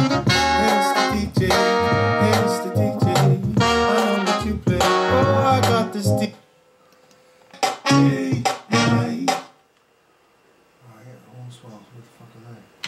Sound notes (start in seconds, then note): 6.8 click!; 7.6 music pauses